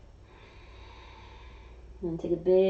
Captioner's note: exhaling